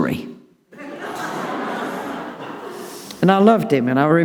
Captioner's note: audience laughing